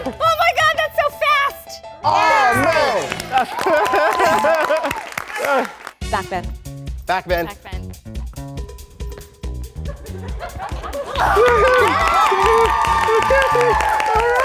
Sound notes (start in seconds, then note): 2.1 everyone cheering; 3.6 laughing; 7.6 dramatic spy music; 9.8 audience laughs; 10.6 audience applauds